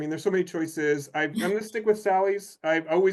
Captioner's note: chuckles